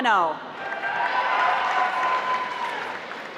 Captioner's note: applause